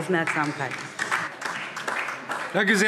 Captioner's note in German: Beifall DIE LINKE